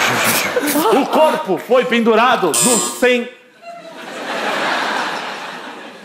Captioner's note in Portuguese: campainha